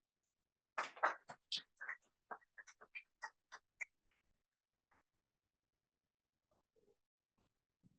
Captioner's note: applause